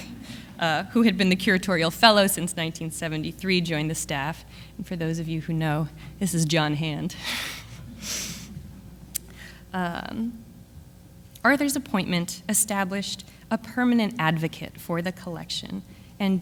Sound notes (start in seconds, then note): 7.2 audience laughs; 7.2 laughs